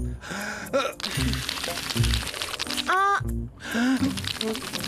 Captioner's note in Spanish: inhalando y exhalando